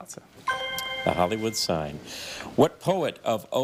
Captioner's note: chime resonating